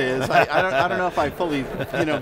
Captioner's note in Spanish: Risas